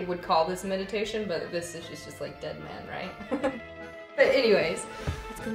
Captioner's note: giggles